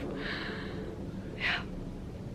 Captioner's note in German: Seufzt